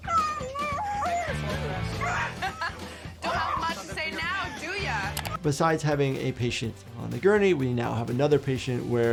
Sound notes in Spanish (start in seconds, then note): 2.0 risas